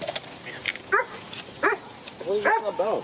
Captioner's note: dog barks